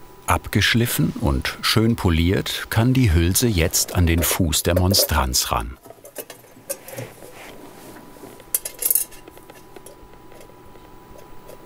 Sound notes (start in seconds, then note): 8.6 metal clinking